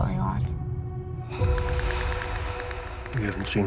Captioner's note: mysterious clicking